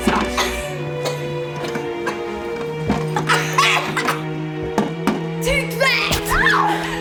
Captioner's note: Faye coughs and sputters; Grim screams when stabbed